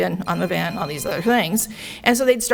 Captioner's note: phone ringing